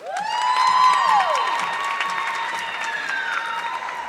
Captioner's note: audience clapping